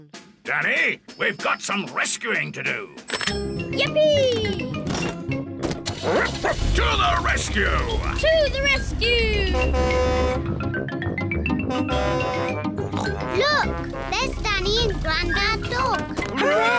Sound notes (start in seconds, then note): 6.0 barks; 8.6 horn blares; 12.8 snorts